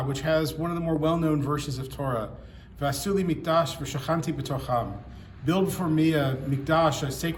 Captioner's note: speaks Hebrew